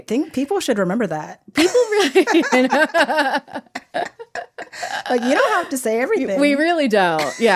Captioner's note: they laugh